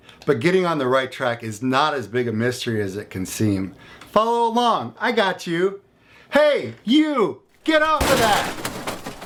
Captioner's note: crash